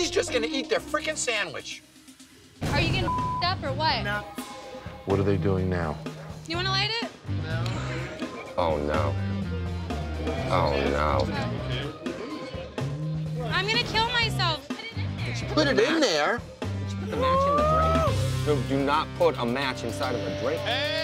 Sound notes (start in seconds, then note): 2.9 beep